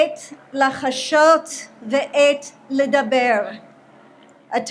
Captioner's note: speaks in Hebrew